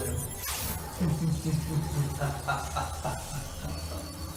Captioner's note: maniacal laughter